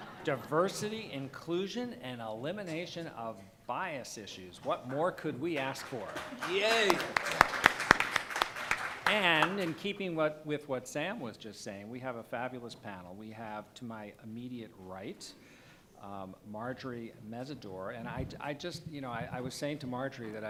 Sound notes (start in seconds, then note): 0.0 laughter; 5.6 applause